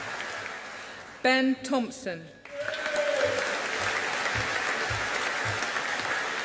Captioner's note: audience applauding